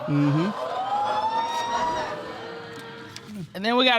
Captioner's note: audience exclaims